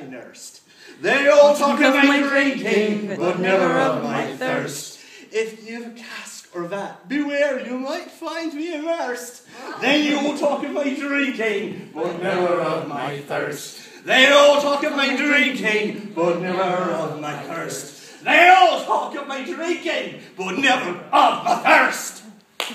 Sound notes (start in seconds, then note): 9.6 audience chuckles